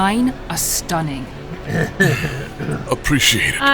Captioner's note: Yoba clears throat suggestively